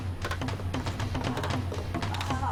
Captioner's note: tapping